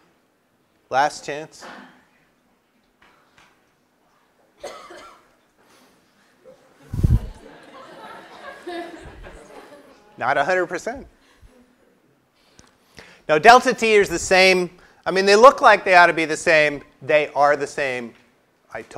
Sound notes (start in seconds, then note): 4.6 cough; 7.1 laugh